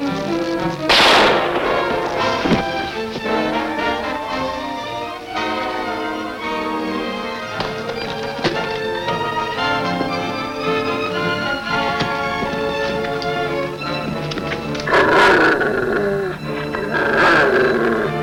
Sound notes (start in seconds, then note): 0.8 gunshot banging; 13.8 devil growling